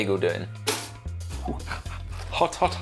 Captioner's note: toaster pops